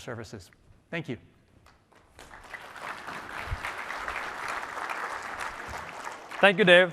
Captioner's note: applause